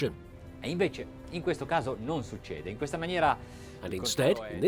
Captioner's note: speaking foreign language